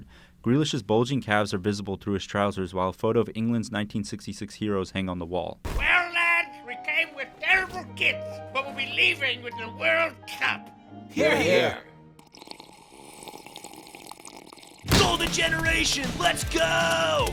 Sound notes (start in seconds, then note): 12.0 sipping tea